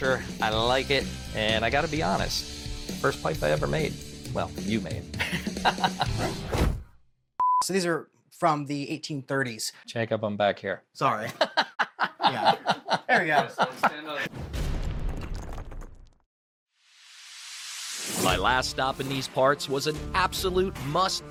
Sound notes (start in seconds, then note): 5.1 laughs; 6.4 graphics thud; 11.2 laughs; 14.4 logo thuds